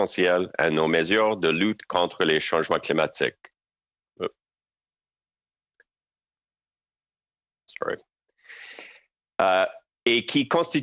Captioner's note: speaking french